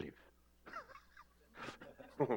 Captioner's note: laughs